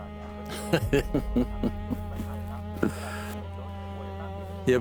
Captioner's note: laughing